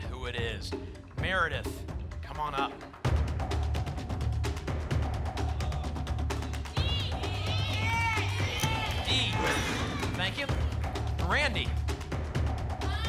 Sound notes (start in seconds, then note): 6.7 audience shouting letters; 9.4 lock sound; 12.9 audience shouting letters